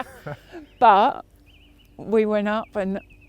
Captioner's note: laughing together